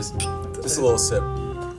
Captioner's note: glasses clink